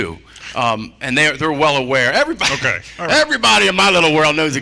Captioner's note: laughter